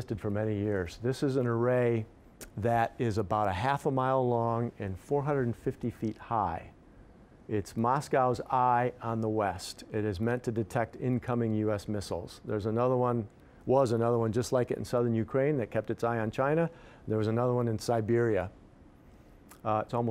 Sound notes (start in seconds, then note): none